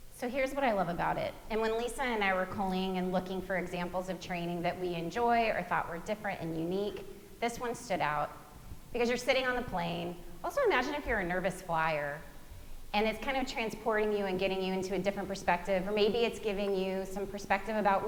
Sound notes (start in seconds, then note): none